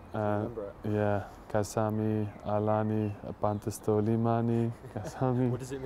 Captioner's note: in Greek